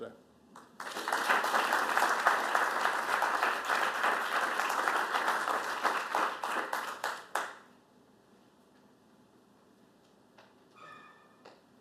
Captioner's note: applause